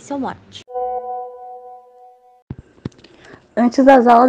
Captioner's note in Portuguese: som de mensagem recebida no whatsapp